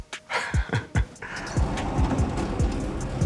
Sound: laugh

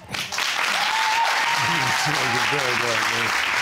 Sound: audience cheering

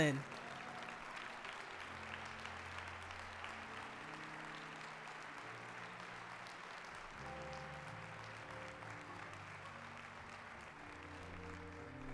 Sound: applause

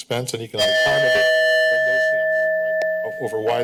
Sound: timer dings

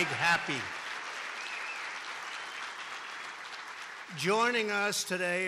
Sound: applause

